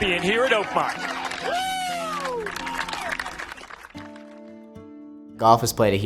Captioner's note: crowd cheering and applauding